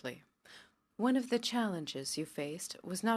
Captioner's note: speaking French